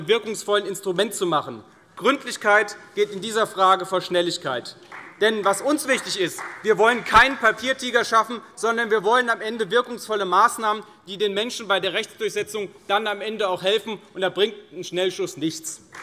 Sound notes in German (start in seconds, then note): 4.8 Vereinzelter Beifall CDU